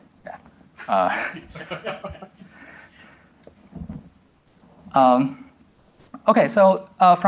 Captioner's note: laughter